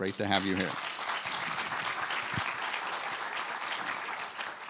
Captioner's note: audience applauding